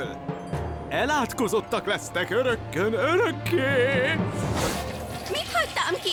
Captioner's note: spooky voice